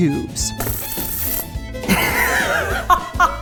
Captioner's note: gloss squirts; laughs